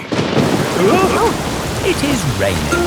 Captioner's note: thunderclap; parents gasp